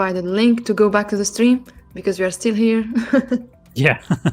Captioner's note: laughs